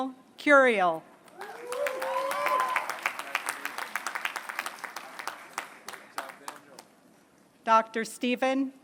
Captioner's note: applause